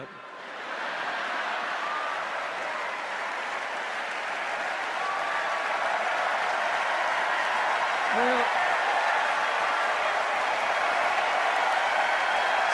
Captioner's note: laughter, cheers and applause